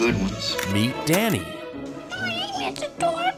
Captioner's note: male Voice